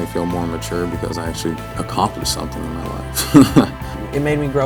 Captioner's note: chuckles